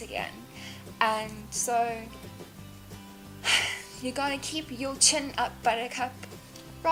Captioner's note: sigh